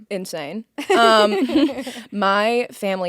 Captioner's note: both laughing